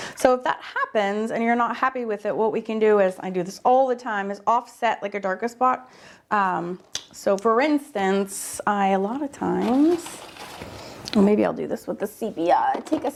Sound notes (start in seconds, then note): none